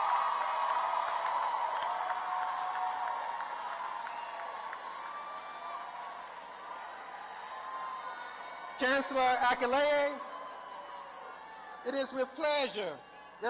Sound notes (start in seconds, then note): 6.2 applause